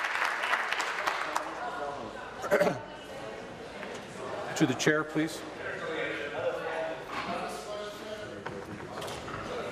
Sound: applause

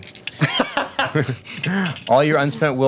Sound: laughing

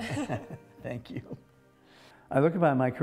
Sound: laughs

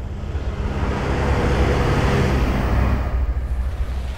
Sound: passing truck roars

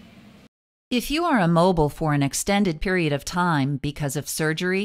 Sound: voice-over

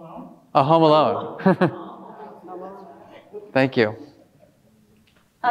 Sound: laughs

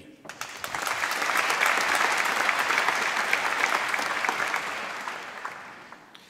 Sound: applause

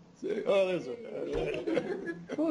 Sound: laughter

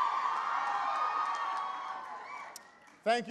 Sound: applause

